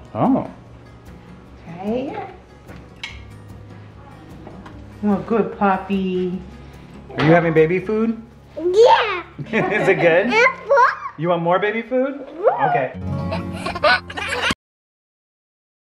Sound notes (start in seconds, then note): 9.4 laugh; 13.2 laughs